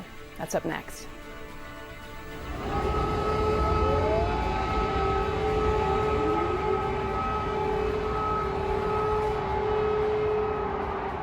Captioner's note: air raid sirens